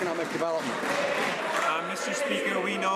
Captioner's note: some Applause